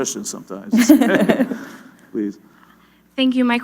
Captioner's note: laughter